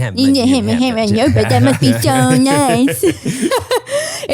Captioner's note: murmurs; laughs